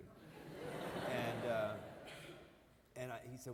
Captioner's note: audience laughing